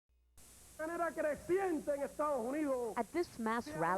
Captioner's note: speaking Spanish